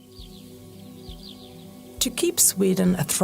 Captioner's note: sounds of nature